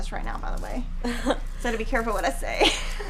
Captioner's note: laughing; laughing